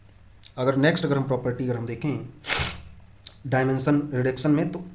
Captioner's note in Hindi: नाक से की जाने वाली आवाज़